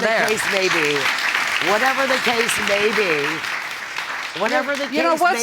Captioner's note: audience applauding